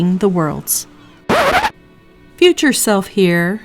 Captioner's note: record scratch